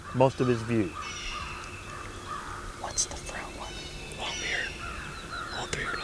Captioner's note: whispering